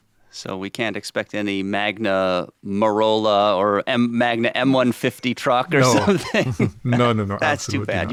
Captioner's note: laughs